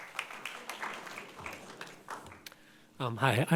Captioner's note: people clapping